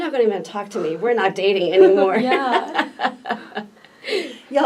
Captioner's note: laughs